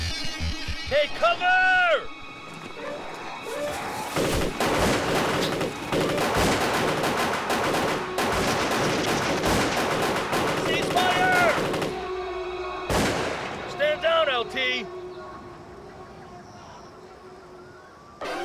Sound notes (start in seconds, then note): 3.4 rapid gun fire; 12.0 gun fires